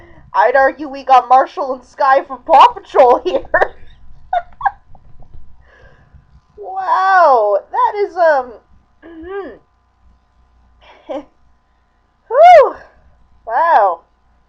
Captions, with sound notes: I'd argue we got Marshall and Skye from Paw Patrol here! (laughing) WOW, that is, um... (clears throat) (soft chuckle) WHOO. Wow.